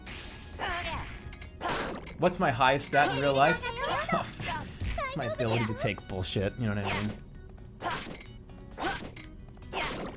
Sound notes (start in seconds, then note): 4.1 scoffs, cool sounding voice